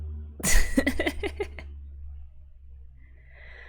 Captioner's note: laughs